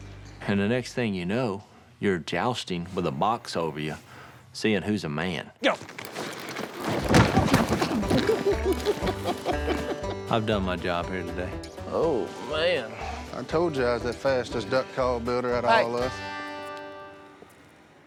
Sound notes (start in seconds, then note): 5.6 wood clanking; 8.0 group laughing